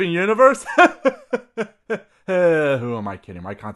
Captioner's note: laugh